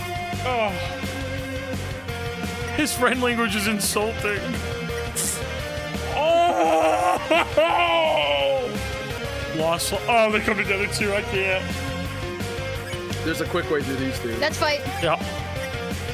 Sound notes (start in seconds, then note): 5.1 sniffles